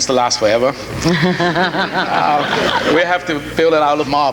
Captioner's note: laughing